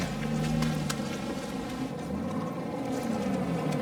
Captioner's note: mud splatting